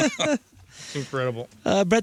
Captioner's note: laughing